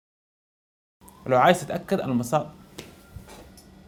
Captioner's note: ambulance in the background